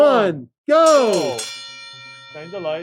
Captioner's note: bell ringing